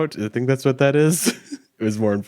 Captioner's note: chuckles